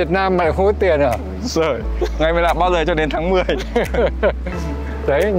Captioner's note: laugh